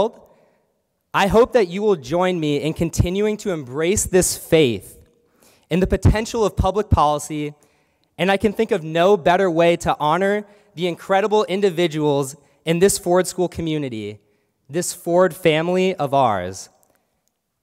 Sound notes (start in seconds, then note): none